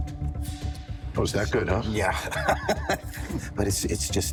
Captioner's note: laughs